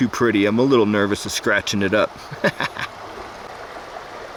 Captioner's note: laughs